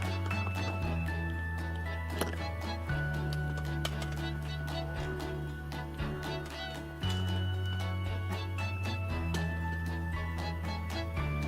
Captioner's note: applause